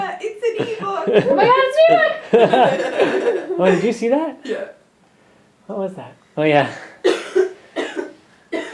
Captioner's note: laughing